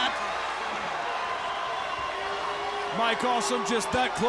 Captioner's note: crowd cheering